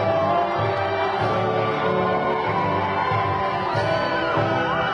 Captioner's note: graduation music continues; crowd cheering